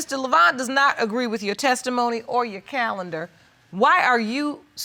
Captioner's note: none